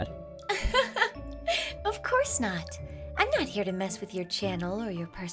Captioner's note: laugh